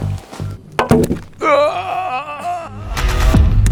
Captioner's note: grunting